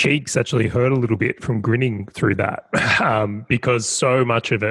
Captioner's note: chuckles